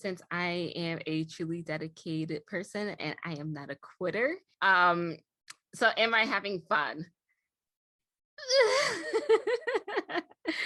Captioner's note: nervous giggling